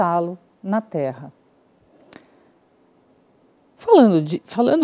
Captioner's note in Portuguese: silêncio